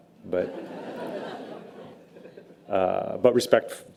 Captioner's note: audience laughter